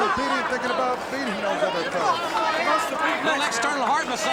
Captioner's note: speaks faintly